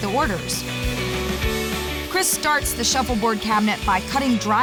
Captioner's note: sawing sound